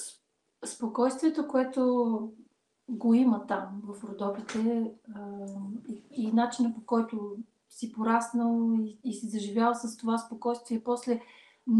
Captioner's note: foreign Language followed by English Interpreter